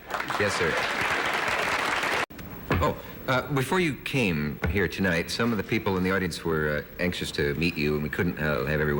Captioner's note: applause